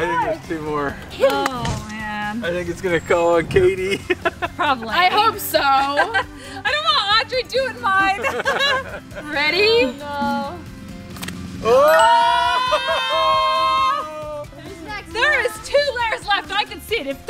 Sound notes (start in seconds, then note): 11.1 balloon pops; 11.8 ding